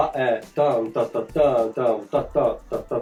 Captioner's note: hums